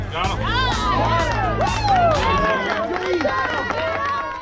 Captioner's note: upbeat music plays; crowd cheering